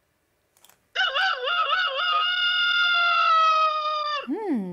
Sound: rooster crows

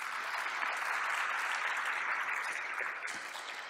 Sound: applause

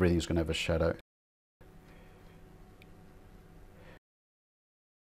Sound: silence

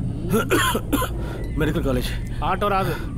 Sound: coughs

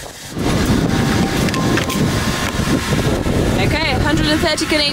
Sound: wind blowing loudly

